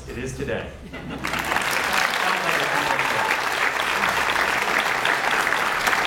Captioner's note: audience laughs and applauds